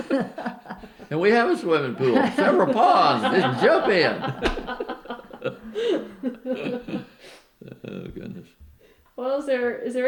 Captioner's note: laughter; laughter